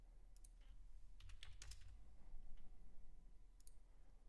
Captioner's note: clicking